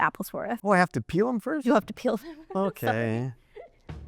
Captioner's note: laughter